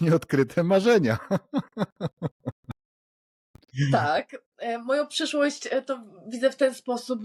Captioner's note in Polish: śmiech